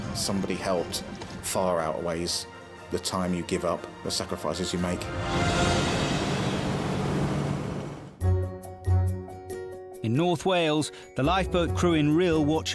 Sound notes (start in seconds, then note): 5.3 boat engine revving; 8.2 upbeat music